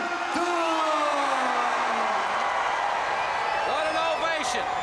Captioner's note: crowd cheering